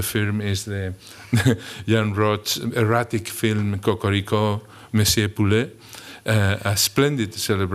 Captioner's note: french